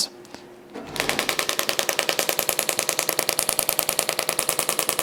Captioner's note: machine tapping